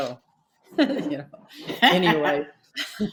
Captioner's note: laughs